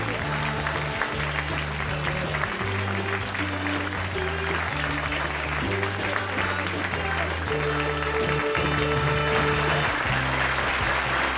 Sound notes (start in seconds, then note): 2.7 applause; 7.3 theme song playing